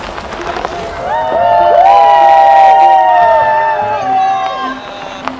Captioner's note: cheering